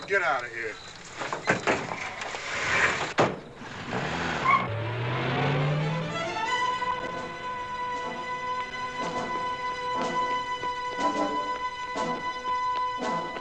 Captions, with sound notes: Get out of here. [tires screeching] [dramatic music]